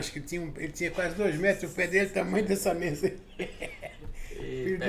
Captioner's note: laughs